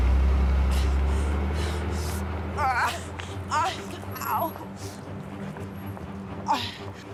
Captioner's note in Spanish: Quejidos